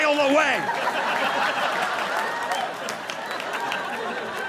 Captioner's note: audience laughing